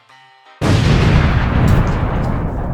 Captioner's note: boom!